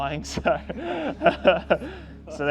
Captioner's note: laughing